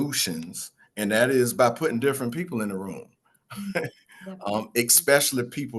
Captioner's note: laughs